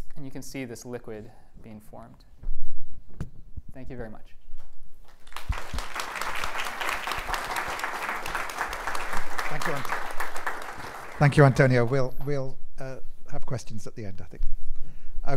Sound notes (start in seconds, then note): 5.0 applause